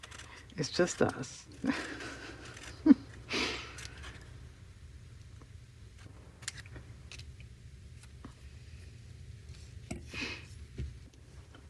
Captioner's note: laughs